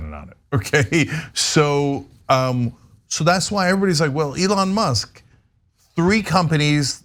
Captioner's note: laugh